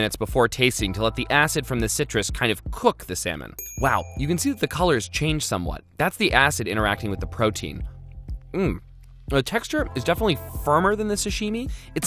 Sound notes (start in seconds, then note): 3.6 bell dings